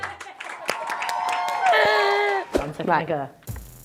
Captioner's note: cheering